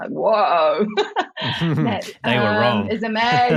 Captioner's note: both laughing